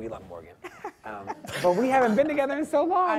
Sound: laughing

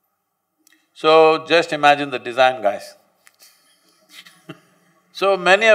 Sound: laughs

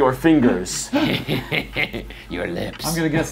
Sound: laughs

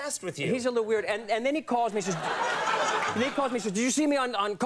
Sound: audience laughs

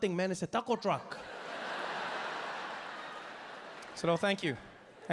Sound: audience laughing

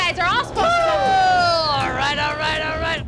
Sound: couple cheers comically

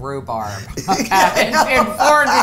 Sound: laughing

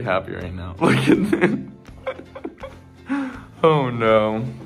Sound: laughing

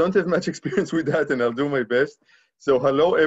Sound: laughing

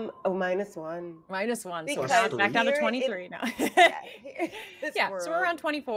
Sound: laughing

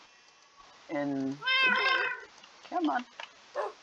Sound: clicks furiously

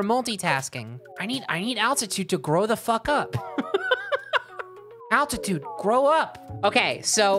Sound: laughing

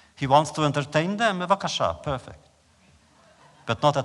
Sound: laughter

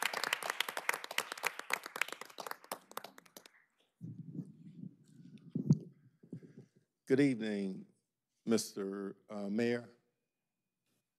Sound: applause

